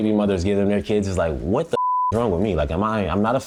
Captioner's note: beep